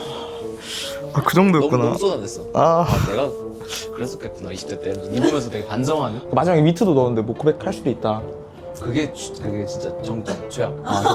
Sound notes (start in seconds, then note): 2.8 inhales